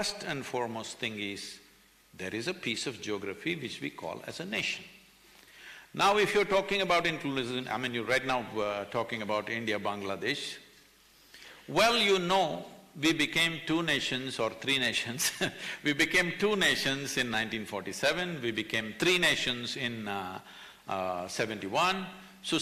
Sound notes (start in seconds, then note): 15.7 laughs